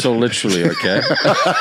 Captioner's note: both laughing